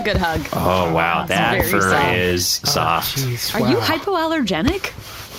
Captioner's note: happily